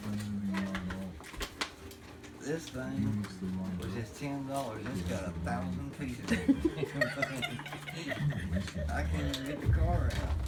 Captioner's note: laughter